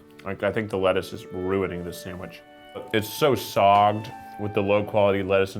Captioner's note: none